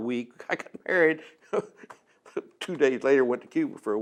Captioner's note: laughs